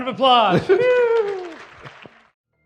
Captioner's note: cheers; applause